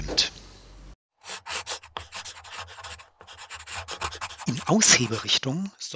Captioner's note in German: Schreibgeräusche